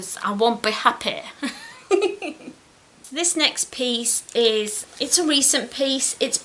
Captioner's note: giggles